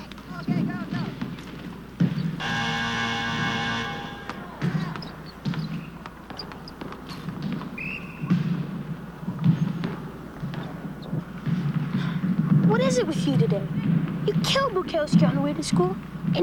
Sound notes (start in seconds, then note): 2.4 game buzzer blares; 7.8 whistle blows